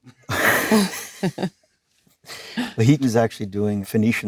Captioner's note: Leonardo and Jennifer laughing